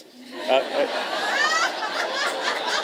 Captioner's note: laughter